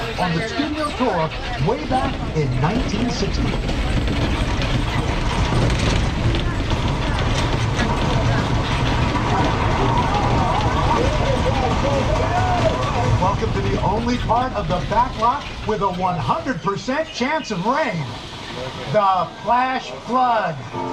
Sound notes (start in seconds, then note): 4.8 tourists chattering; 4.8 tram clattering